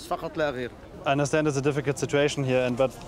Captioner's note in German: englisch